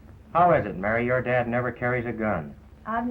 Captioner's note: none